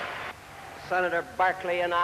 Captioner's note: applause and cheering